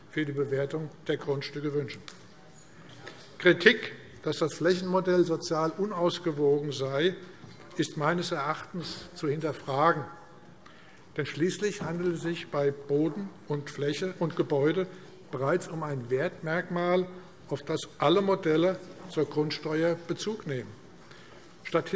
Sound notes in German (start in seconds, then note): none